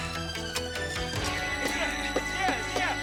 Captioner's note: shovel thudding